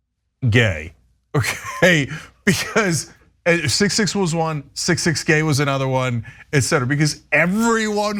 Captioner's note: laugh